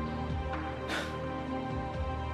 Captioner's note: sigh